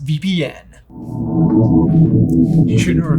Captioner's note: circle whooshing; voice muffling